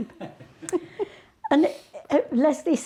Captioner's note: people laughing